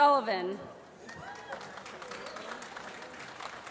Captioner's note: applause